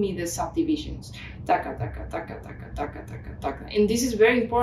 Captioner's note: makes beat noises